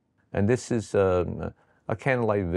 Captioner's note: none